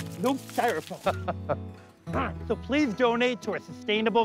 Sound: laughs

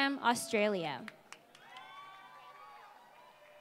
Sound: applause

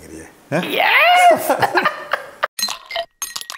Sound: laughs

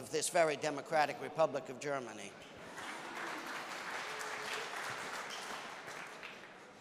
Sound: applause

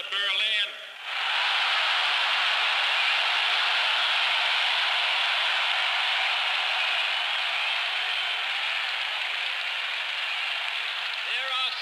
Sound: cheering

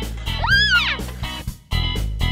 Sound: yells; upbeat music

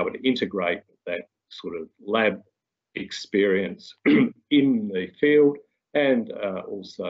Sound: clears throat

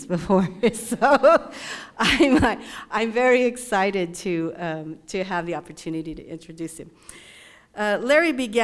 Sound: laugh

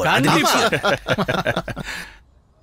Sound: laughs

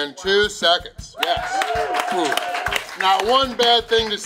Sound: crowd cheering

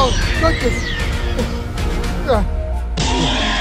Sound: velociraptor screeching

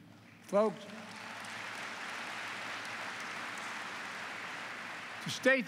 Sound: applause

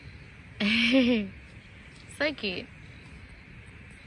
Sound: chuckles

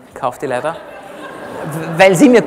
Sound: laughter from the audience

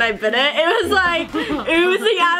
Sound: laughs

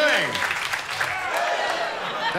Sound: whoops and cheers

